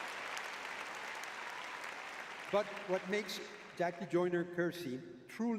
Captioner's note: audience cheering